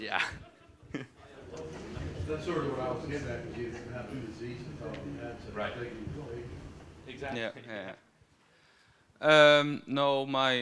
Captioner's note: laughter